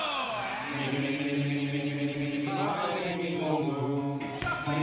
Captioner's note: all humming